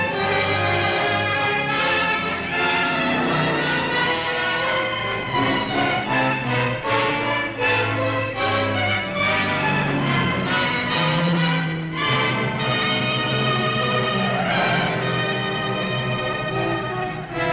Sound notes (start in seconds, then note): 3.0 engine roaring; 10.0 engine roaring; 14.4 tires squealing